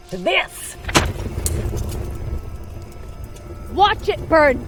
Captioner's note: book thrown in fire